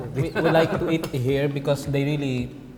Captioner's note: laughs